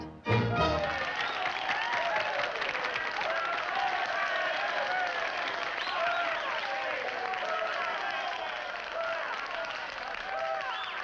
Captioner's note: men cheer and clap